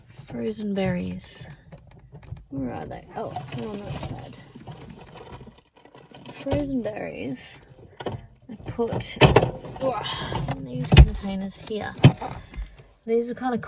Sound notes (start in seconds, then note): 8.3 loud clunk; 10.2 lid shuts